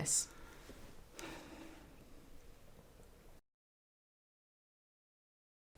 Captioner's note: sigh